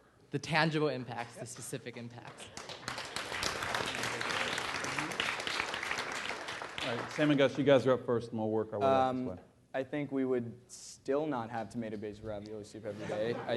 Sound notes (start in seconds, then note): 2.3 applause